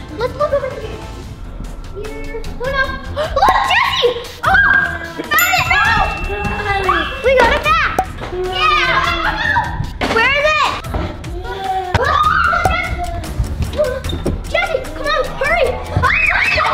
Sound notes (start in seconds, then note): 12.6 clock ticking